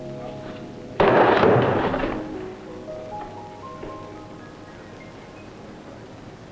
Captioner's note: banging